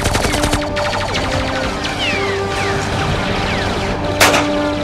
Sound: gunfire, rapid gunfire; gunfire; pistol shot

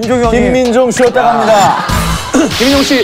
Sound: haha

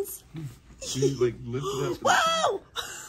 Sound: laughing

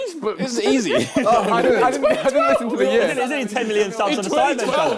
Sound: crowd mumbling

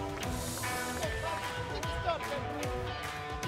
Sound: clapping; upbeat music

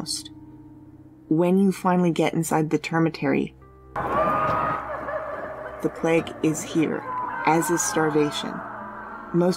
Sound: many people screaming

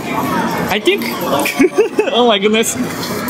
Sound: laughs

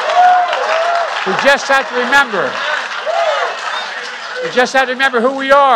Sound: applause

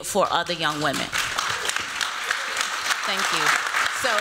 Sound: applause

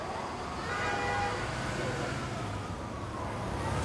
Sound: car horn honking

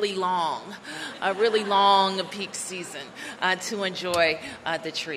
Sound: laughter

